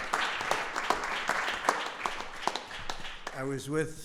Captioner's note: applause